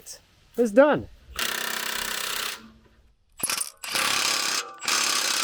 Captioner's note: drill drilling